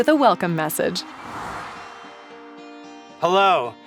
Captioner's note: air whooshes; gentle music